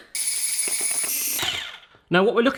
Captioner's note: whirring